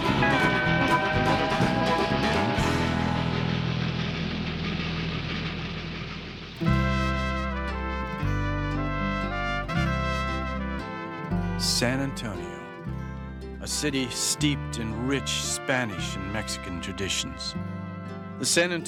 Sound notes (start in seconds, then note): 3.6 train chugging; 6.9 slow Mariachi-style music